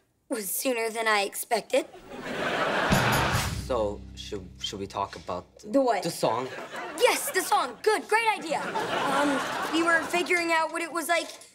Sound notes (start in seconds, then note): 2.0 laughing